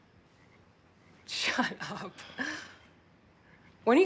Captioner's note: chuckling